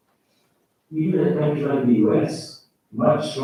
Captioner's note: faintly speaking